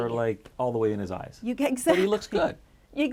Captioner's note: chuckles